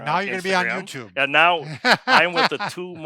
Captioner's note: laughing